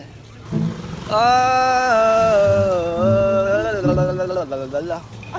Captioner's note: nonsense vocalizing